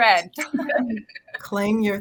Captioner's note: laughing